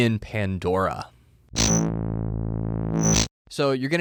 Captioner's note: buzzing